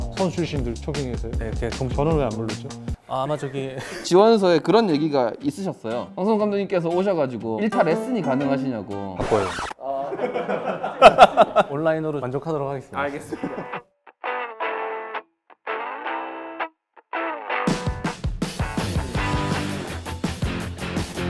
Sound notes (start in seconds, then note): 9.9 chuckle